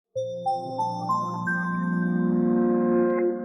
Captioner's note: chimes